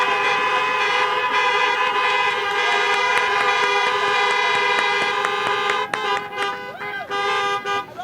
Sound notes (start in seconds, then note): 2.4 horns honking